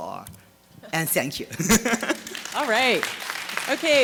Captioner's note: laughing